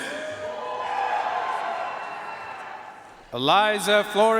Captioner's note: audience cheering and applauding